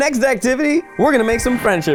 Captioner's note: logo rings